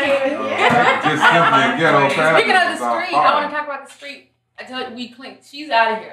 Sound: laughing

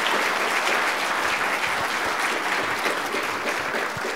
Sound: applause

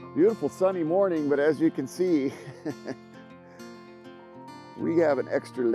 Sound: laughs

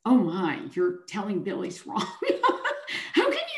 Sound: chuckles

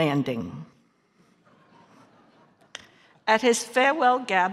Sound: audience laughing

